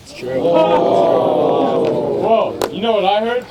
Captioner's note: crowd groaning